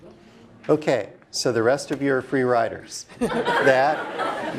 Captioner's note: laugh